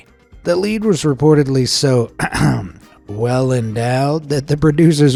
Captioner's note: ahem